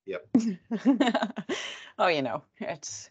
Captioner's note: laughs